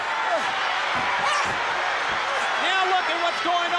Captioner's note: crowd cheering